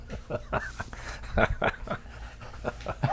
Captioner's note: laughs